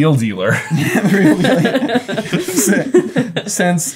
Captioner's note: everyone chuckling